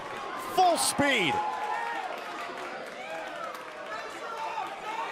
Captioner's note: crowd cheering